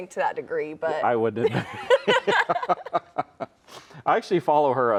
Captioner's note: laughs